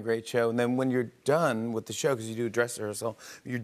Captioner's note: none